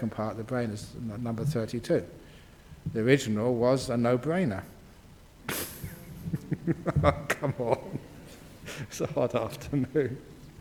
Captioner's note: laughs